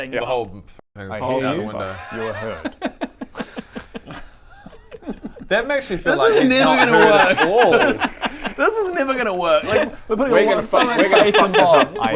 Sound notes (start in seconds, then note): 3.7 laughs at inevitable omnishambles and TPK